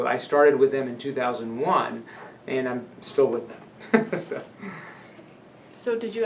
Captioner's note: laughs